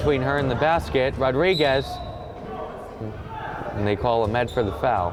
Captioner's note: whistle blowing